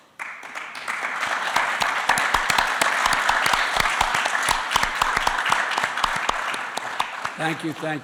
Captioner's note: applause